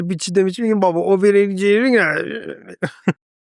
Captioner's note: laughs